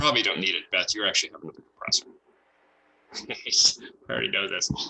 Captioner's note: chuckles